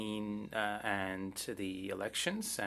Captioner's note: speaking French